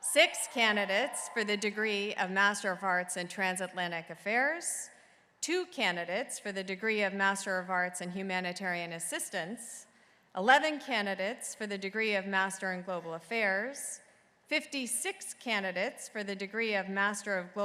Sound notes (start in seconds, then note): none